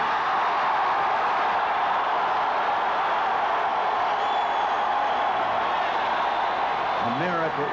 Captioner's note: cheering